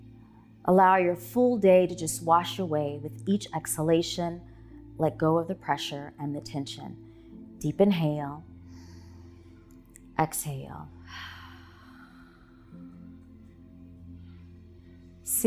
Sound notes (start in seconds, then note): 11.0 exhaling; 12.5 relaxing music